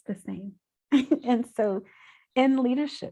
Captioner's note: chuckles